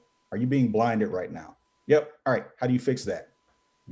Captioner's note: none